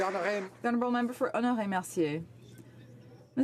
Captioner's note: some Applause